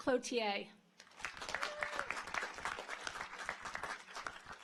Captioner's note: audience applauds